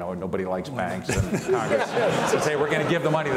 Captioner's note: all laugh